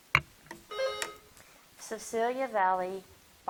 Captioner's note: bell dinging